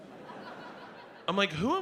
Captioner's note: audience laughs